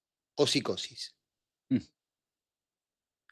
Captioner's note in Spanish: carraspeo